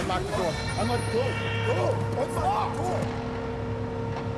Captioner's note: group yelling